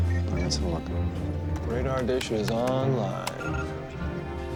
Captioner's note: keys clack; whirring